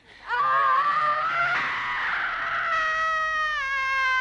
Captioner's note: Hundra screaming